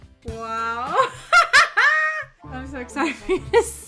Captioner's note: laughs